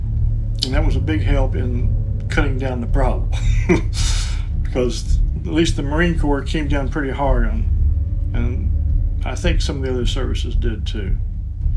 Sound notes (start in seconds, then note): 3.3 laughs